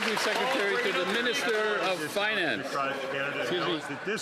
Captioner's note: some Applause